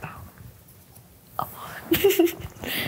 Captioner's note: giggles